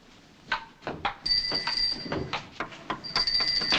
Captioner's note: bell ringing